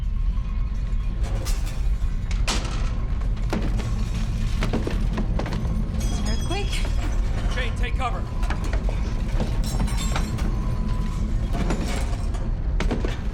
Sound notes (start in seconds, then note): 1.3 glass break; 11.2 thud sound